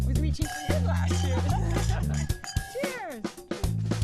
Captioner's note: all laugh